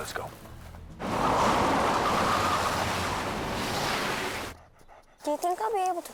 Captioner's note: tires skidding; sloshing